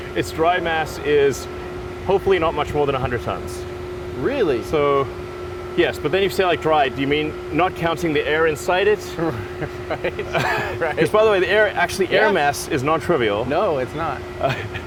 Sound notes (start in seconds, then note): 9.1 chuckles